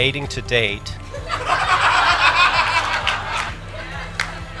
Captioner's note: laughing